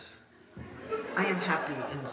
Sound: audience laughing

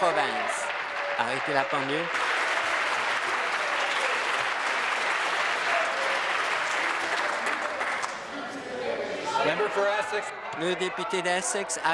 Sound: applause

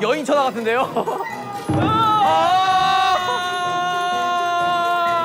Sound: crying

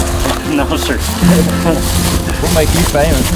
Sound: chuckles

